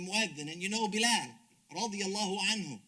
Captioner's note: speaks Arabic